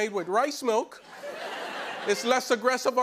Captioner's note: laughter